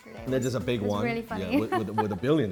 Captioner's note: laughs